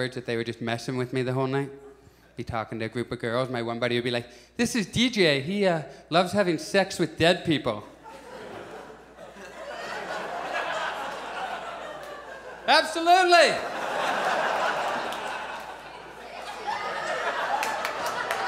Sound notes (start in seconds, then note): 7.8 audience laughs; 13.9 audience laughs